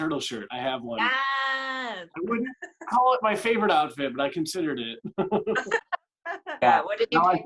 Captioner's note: laughter